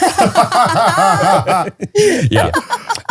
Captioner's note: all laughing